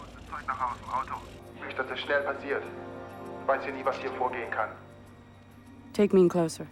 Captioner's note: man Speaking German Over P.A